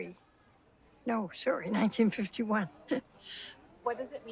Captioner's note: laughs